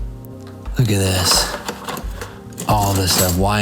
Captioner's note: kitchen tools rattling